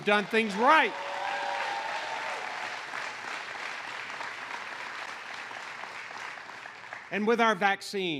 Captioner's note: applause